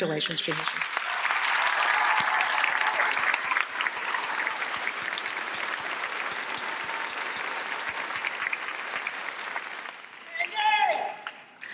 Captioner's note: applause and cheering